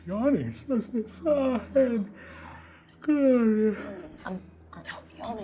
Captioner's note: yawning